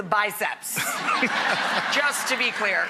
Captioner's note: audience laughs